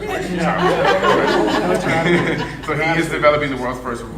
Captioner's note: laughing drowns out speaker